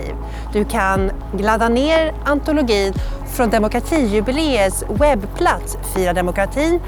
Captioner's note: in Swedish